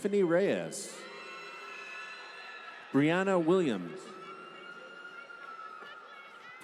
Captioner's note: applause